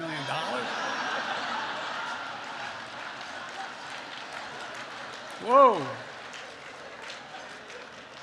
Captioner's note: laughter